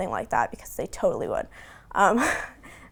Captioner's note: giggling